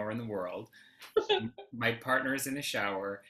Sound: laughs

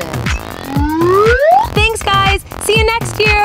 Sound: slide whistle's up

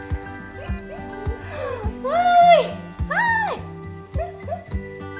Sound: laughing

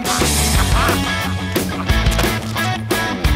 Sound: laughs

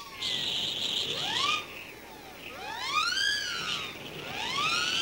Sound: wind gusts howling

